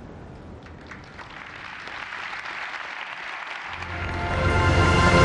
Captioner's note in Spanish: Aplausos